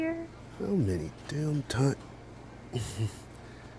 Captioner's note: grumbled